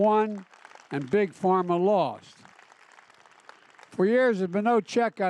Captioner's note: applause